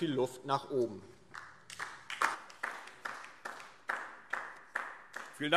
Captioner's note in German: Beifall DIE LINKE